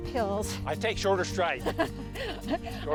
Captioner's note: laughs